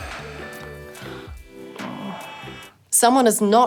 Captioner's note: moans